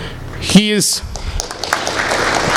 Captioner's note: applause